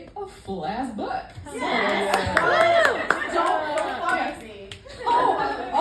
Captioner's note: applause